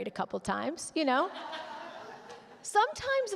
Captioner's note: audience laughing